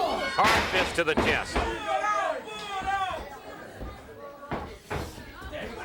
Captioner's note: blows thudding; crowd murmuring